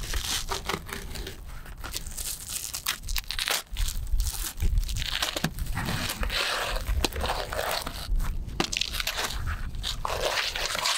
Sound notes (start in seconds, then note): 0.9 knife scraping